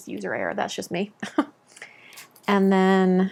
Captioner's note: chuckles